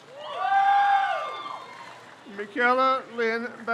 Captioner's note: crowd cheers